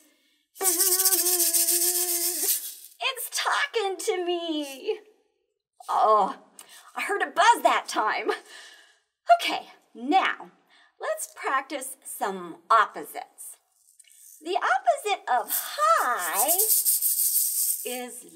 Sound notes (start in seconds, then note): 5.1 excited